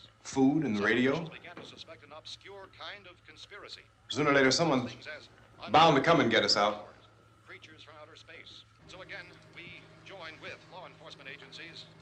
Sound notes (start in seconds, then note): 7.4 radio